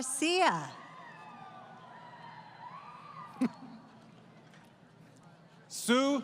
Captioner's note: crowd Cheering